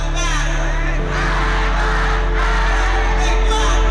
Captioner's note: crowd